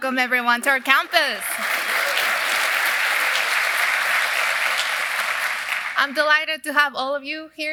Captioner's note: applause